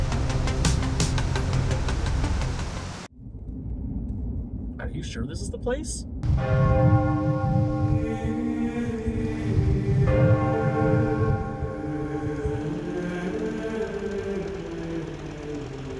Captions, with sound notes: - Are you sure this is the place? (church bells ringing) (religious choral music)